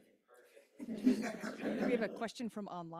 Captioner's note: laughs